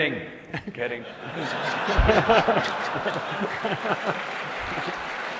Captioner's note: audience laughing